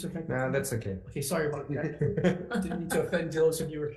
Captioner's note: laughs